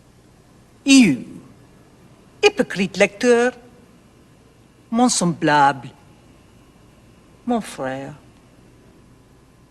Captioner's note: speaking french